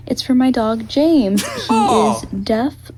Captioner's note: Dan and Phil laugh